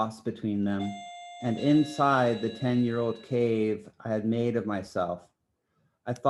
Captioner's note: phone beeping